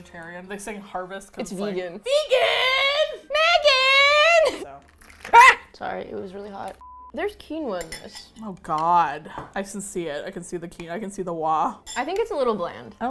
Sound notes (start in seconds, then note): 5.3 yelps